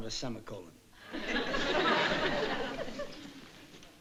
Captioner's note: audience laughing